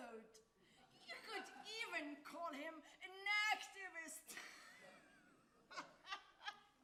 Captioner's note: laughs